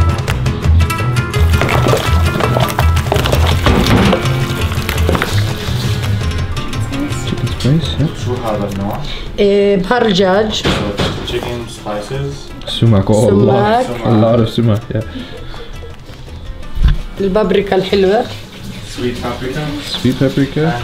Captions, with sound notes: [Speaking in Arabic] - Sumac. - Sumac. A lot of sumac, yeah. - [Speaking in Arabic] - Sweet paprika. And chilli.